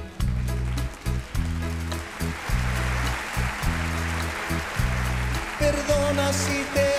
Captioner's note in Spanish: aplausos